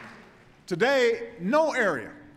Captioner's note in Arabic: تصفيق